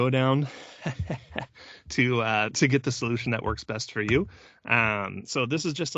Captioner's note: laughs